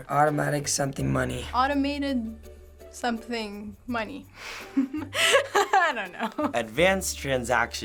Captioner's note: chuckles